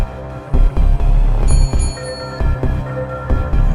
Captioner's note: small bell rings